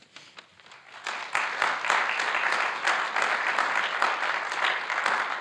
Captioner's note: audience applauding